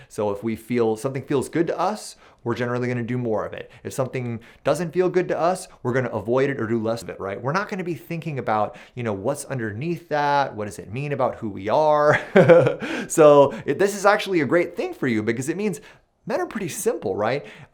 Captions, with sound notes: If something feels good to us, we're generally going to do more of it. If something doesn't feel good to us, we're going to avoid it or to less of it. We're not going to be thinking about what's underneath that, what does it mean about who we are. [laughs] This is actually a great thing for you, because it means men are pretty simple.